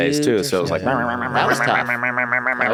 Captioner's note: imitates yapping